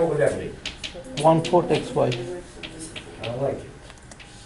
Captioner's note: students mumbling